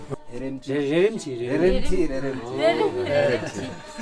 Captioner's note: tibetan conversation and laughter